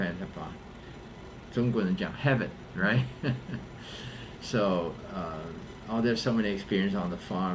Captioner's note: laughs